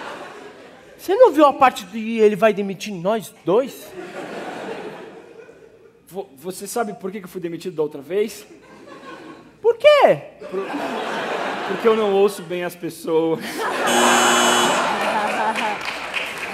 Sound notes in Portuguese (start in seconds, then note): 9.3 sarcástico; 13.8 campainha